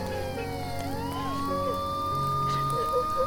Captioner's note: gentle music; fire raging; gentle music